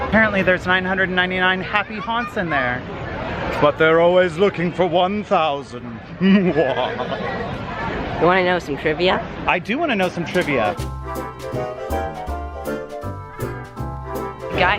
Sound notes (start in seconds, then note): 6.2 laughs evilly; 10.4 upbeat music